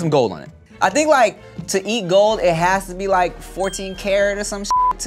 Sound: beep

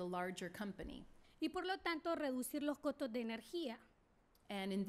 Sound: speaking spanish

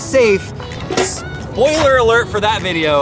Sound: safe closes

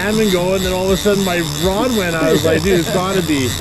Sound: laughing

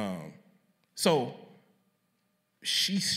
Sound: none

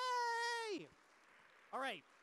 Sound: audience applause

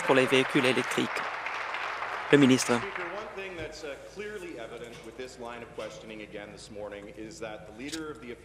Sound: applause

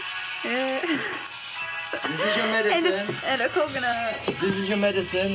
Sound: laughs

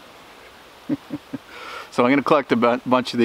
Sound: laughing

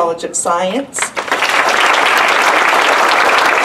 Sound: applause

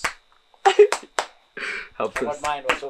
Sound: men clapping

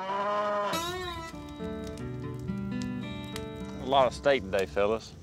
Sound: fire crackling

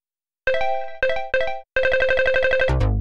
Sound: app activates; error sound

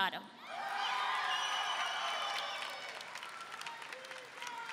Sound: audience cheering

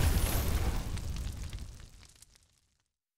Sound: sizzling

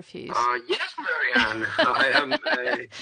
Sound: laughs

